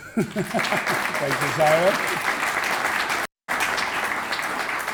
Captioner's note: audience applauding